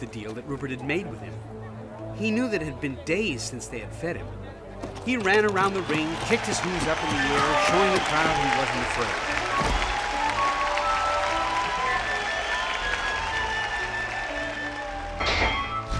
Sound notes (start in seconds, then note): 10.0 crowd cheering